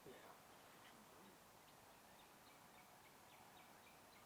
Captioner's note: whispering